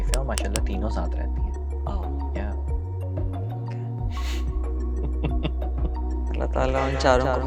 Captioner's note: nasal voice